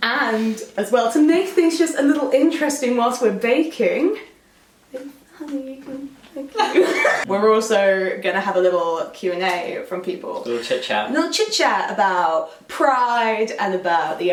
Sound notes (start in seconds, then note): 6.6 both laugh